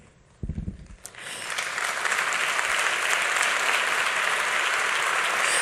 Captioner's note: audience clapping